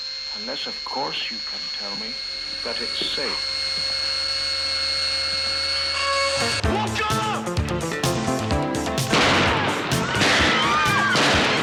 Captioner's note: alarm Buzzing